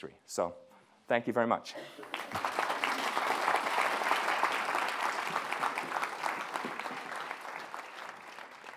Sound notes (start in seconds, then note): 2.0 audience clapping